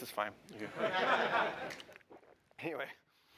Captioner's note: laughter